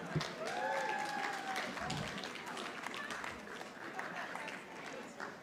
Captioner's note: audience applauding